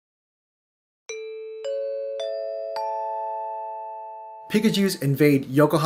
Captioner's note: broadcast chimes